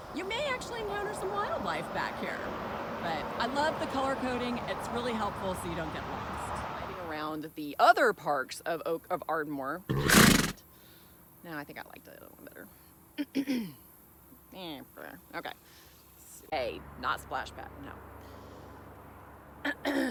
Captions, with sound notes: you may actually encounter some wildlife back here. But I love the color coding. It's really helpful so you don't get lost. Around the other parks of oak of Ardmore. [horse neighing] now think I liked it a little better. Okay. say not splashback no... [clear throat]